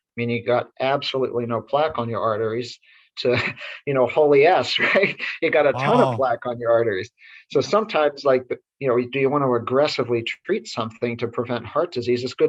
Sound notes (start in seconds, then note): 5.7 chuckles